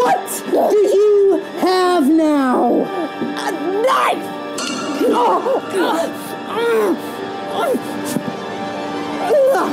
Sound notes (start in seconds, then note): 4.2 dramatic music; 4.9 both groaning